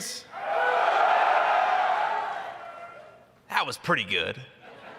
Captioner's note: cheers